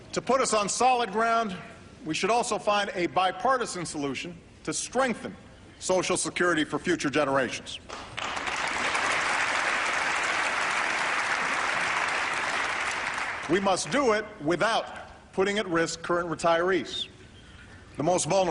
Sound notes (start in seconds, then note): 7.9 applause